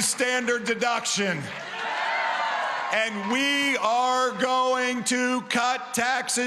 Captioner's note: cheering & applause